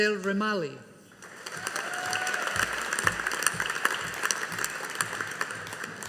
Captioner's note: audience applauding